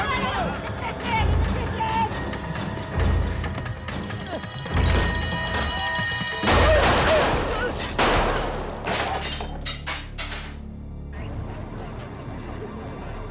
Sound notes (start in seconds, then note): 0.1 yelling; 6.4 gun firing